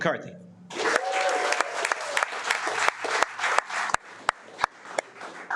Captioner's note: audience applauding